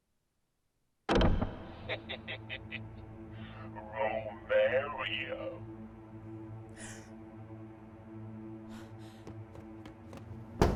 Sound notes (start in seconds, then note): 1.2 ominous music; 1.9 leprechaun laughing; 6.8 Mischa gasping